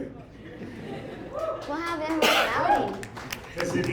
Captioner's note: laughter